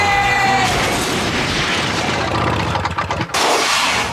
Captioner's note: crashing